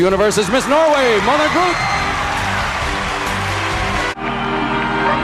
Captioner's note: crowd cheers and applauds; vintage music